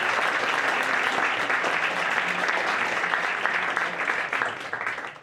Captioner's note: audience applauds